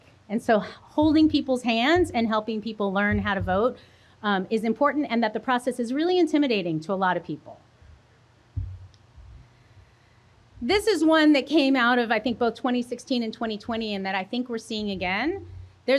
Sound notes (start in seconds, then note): none